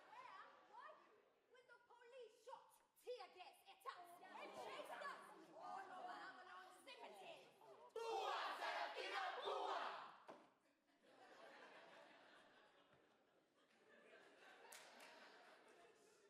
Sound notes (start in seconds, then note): 7.6 students chant; 11.1 audience laugh